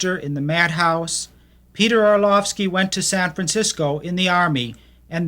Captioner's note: voiceover